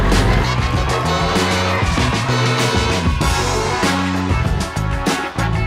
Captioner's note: children cheering sound; energetic music